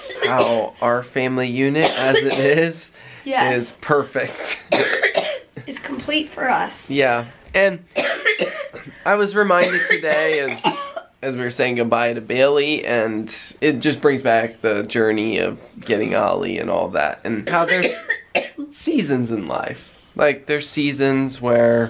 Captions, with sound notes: how our family unit as it is...is perfect. [coughing] It's complete for us. Yeah, and... [coughing] I was reminded today as... as we were saying goodbye to Bailey and it just brings back the journey of getting Ollie and all that and how there's seasons in life. Like, there's seasons where...